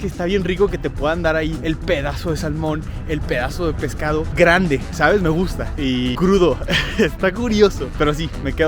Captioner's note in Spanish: risas